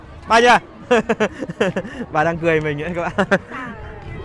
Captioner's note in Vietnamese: Tiếng cười